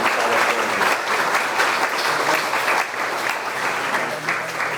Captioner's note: audience clapping